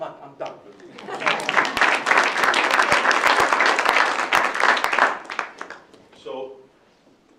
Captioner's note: ? applause ?